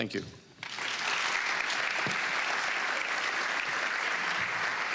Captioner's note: applause